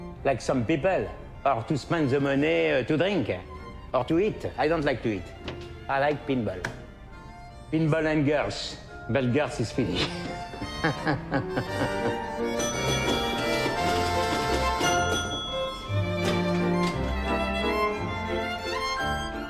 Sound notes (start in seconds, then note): 9.8 laughs; 14.8 old pinball score counter dings